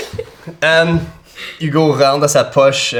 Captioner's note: Zara laughs